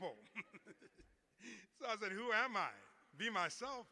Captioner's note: laughter